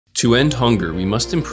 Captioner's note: voiceover